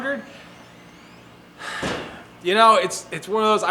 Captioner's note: sighs